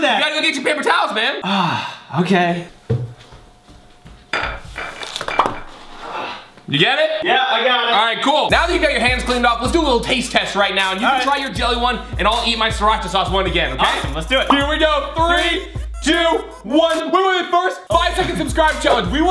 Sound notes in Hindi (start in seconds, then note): 5.5 पॉप